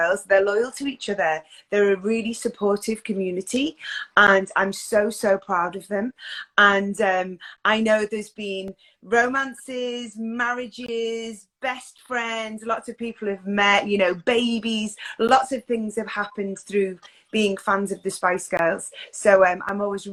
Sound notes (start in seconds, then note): none